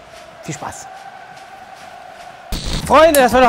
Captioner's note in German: Fangrölen im Hintergrund